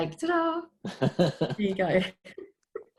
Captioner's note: laughs